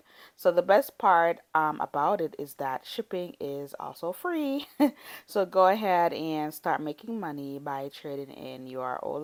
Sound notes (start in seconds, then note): 4.6 chuckles